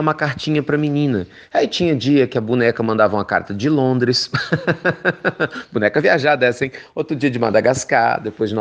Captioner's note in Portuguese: risos